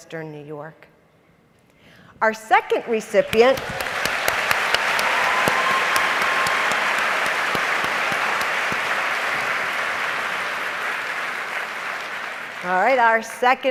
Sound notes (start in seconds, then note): 4.3 applause